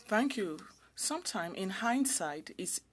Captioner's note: speaking French